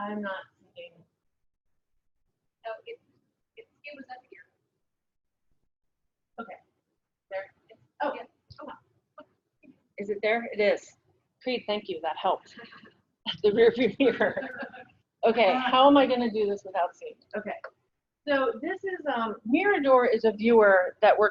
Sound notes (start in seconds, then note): 13.4 laughs